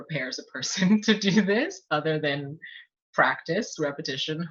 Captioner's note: laughs